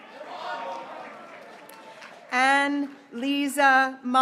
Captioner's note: graduates cheering